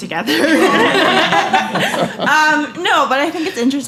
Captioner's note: laughter